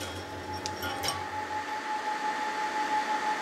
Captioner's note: machine whirring in the background